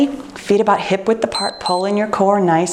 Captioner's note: timer beeps